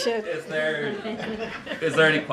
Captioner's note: laughter